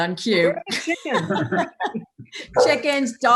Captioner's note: laughing